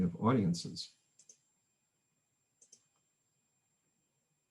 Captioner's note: mouse clicks